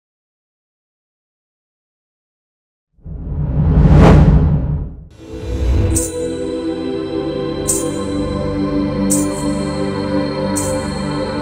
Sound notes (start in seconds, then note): 6.0 anklet chimes